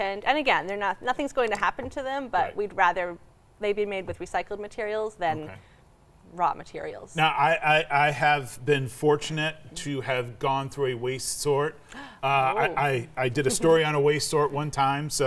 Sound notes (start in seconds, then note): 11.8 gasps